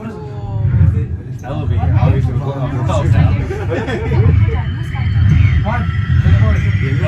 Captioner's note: the blinking lights and sound speeding up